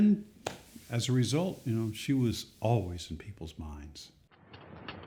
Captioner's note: fire crackling